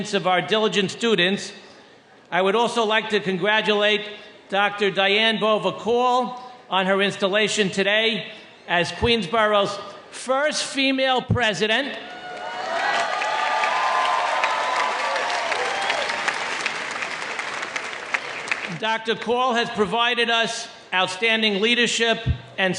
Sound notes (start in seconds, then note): 12.0 audience cheering